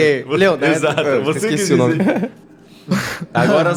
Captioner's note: laughs